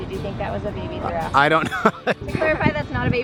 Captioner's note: laughing